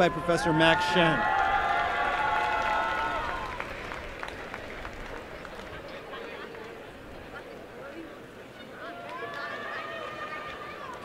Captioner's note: applause and cheering